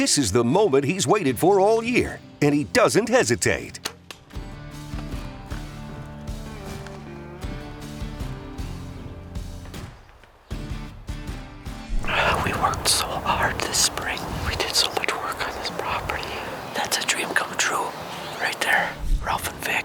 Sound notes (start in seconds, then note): 3.8 arrow clicking; 5.0 twangy music